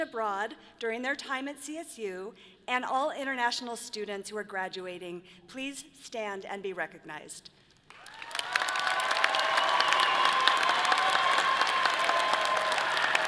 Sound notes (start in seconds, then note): 7.9 audience applauding and cheering